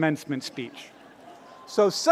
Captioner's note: laughter